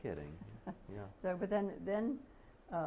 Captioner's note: laughter